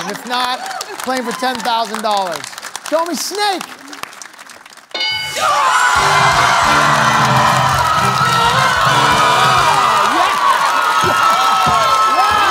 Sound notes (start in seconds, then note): 4.9 bell dings; 6.1 cheering/applause